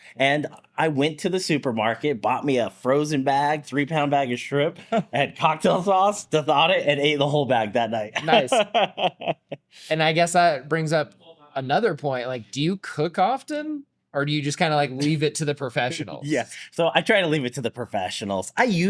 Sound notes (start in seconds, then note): 8.1 laughs